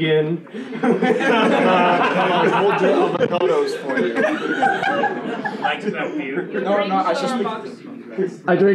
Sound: laughing, unintelligible audience banter

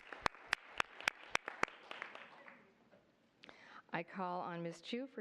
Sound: applause

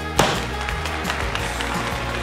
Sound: cheering

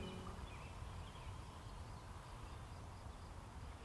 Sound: bird calls, wind and rain sounds

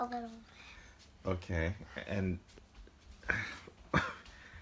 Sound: laughs

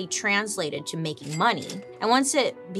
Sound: cash register dings

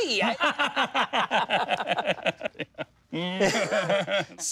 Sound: both laughing

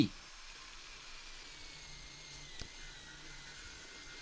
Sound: machines buzzing

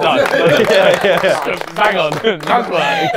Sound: people clapping

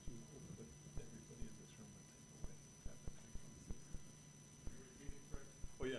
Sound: whispering

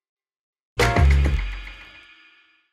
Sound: logo clangs

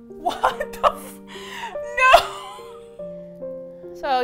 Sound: mournfully; laughs dejectedly

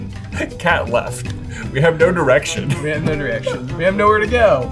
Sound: laughs

